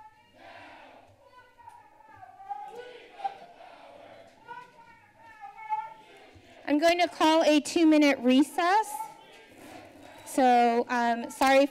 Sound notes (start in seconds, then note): 0.0 protesters shouting